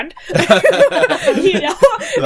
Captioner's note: laughing